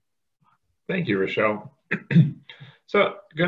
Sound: clears throat

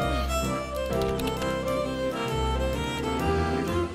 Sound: keyboard clicks

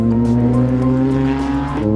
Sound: car engines

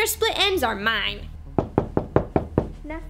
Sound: knocking

